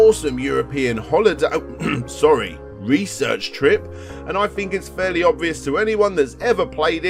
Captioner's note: cough cough